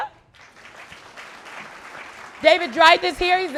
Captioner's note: audience clapping